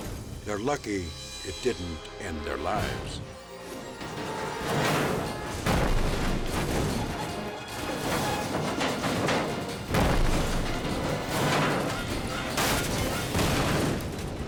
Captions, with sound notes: They're lucky it didn't end their lives. (dramatic music) (structure thudding)